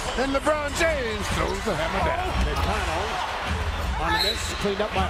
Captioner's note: cheers and applause